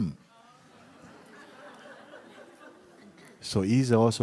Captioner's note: laughter